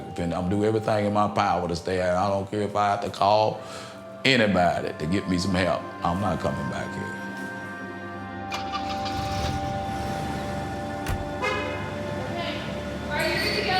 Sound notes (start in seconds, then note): 9.0 engine revving